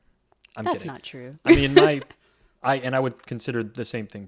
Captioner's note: laughs